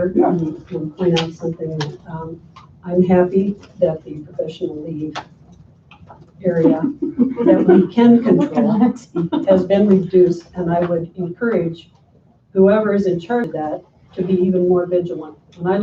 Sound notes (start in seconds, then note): 8.9 chatter and laughter